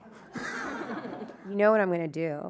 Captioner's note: audience laughing